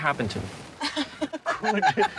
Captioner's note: laughs